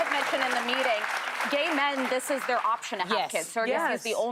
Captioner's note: applause